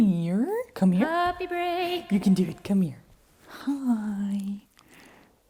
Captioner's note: disembodied voice